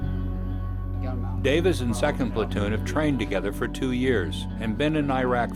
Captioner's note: voiceover